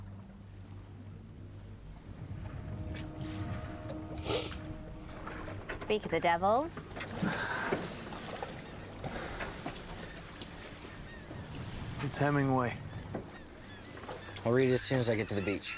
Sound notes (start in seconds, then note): 2.2 ominous music; 4.2 George sniffles